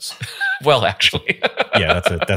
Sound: laughing

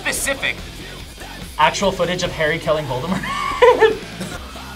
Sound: laughs

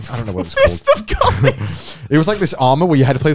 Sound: chuckling

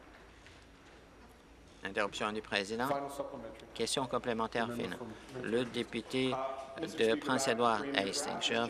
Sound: applause

